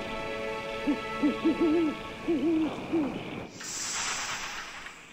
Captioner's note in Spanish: búho ululando